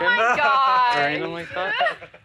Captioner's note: laughs